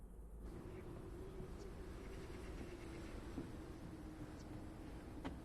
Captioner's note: soft wind blows